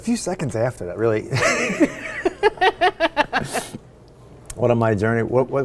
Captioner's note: laugh